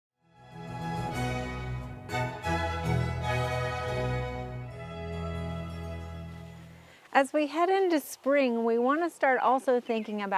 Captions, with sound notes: (dramatic music) (birds chirping) - As we head into spring, we wanna start also thinking